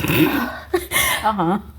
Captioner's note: snorts